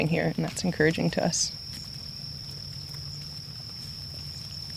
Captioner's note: crickets chirping